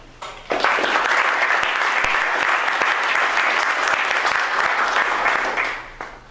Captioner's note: applause